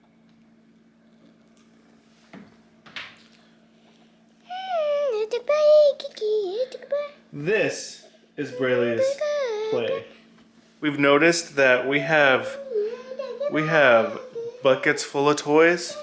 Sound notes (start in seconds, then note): 1.3 sloppy sound; 4.5 baby mumbling